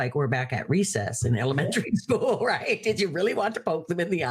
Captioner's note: laughing